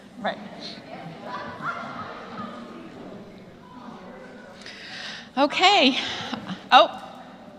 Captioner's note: laugh